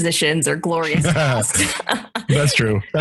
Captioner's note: both laugh